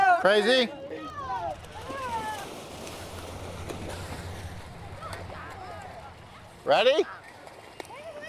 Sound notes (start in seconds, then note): 2.2 water splashing